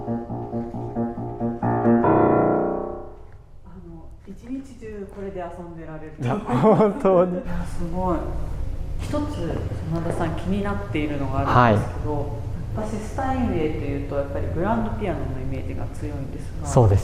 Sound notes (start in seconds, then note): 6.2 laughs